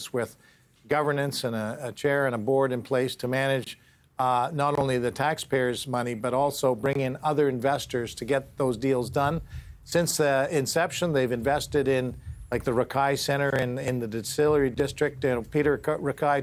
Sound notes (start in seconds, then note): none